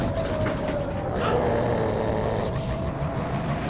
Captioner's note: roars